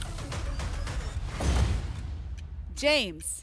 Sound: whoosh; thump

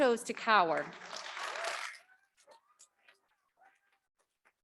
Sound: audience clapping

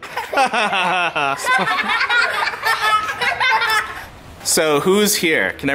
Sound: children laughing

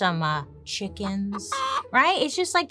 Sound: chickens clucking

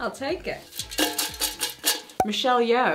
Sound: can rattles; cork popping

